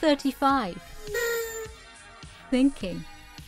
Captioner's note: apathetic party toots